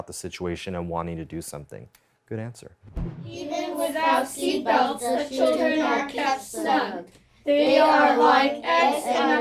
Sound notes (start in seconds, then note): 3.6 teacher and students reading together